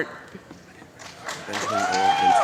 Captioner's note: applause